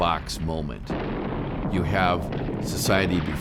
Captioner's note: bomb exploding